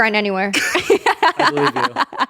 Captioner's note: everyone laughs